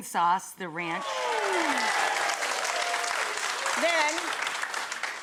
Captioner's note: audience applause